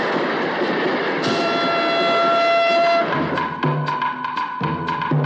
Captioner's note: train Whistle Blows